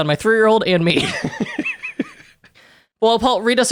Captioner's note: laughing